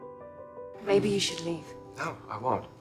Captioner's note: voiceover